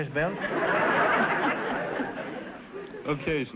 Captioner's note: audience laughter